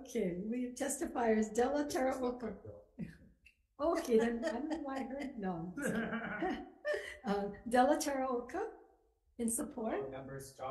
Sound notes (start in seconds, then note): 2.3 chair members laughing